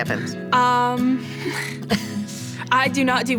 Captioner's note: laughing